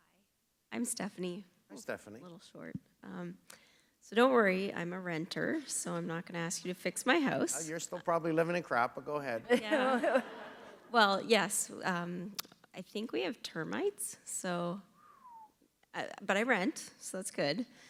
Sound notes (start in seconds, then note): 9.4 laughter